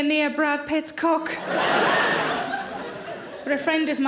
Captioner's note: audience laughing